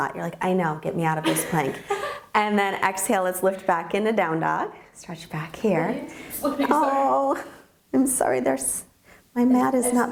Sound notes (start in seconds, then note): 1.3 laughing